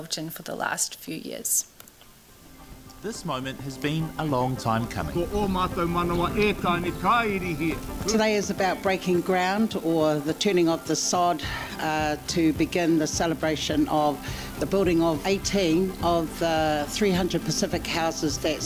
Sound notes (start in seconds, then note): 5.3 non-english